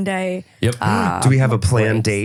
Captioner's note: gasps